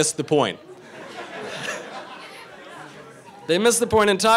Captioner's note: crowd laughing